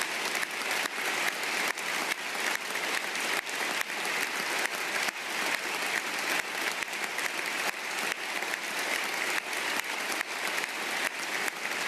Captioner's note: applause